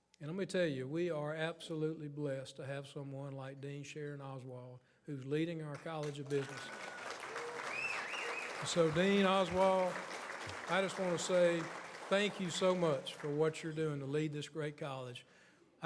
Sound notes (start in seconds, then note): 5.9 audience applauds